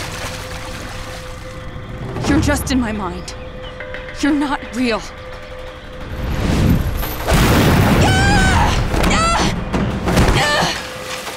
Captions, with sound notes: You're just in my mind. You're not real. [screaming] [groaning]